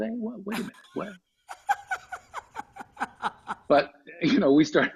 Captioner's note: laughs